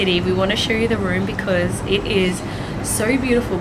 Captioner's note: none